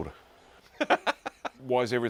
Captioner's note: laughing